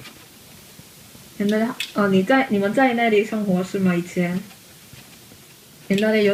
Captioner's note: speaking in Chinese